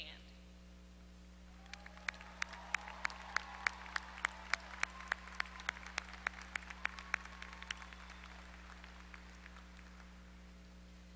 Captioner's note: applause